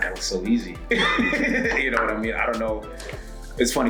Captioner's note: laugh